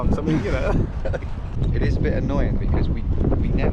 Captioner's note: laughs